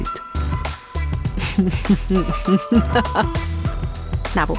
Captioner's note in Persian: خنده